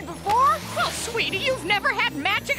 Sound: none

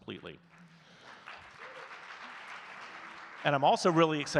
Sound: audience clapping

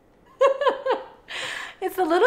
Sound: laughs

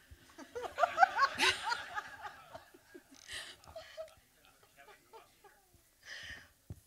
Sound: laughter

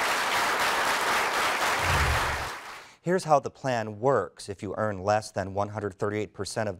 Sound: applause

